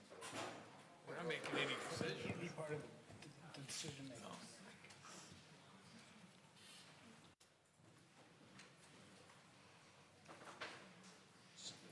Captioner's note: mumbling